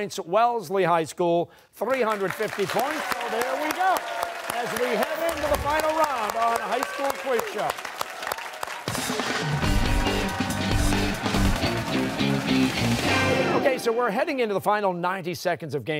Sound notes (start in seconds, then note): 7.8 cheers and applause